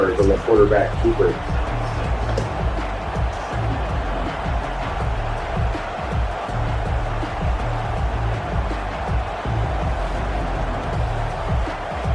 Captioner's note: crowd Noises